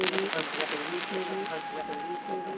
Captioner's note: record static